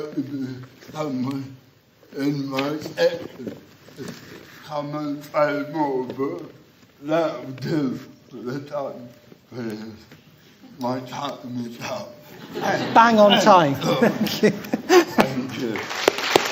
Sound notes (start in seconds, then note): 12.3 laughter